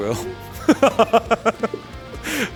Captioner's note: laughs